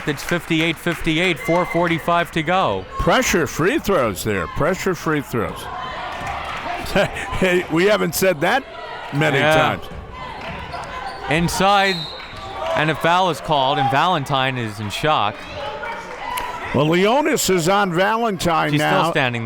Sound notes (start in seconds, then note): 11.8 whistle tweeting